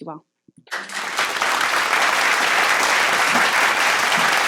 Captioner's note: audience applauds